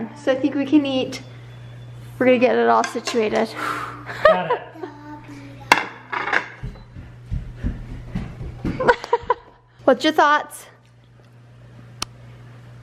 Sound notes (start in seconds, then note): 8.6 laughs